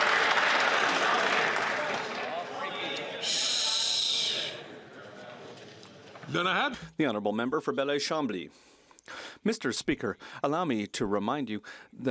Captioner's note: some Applause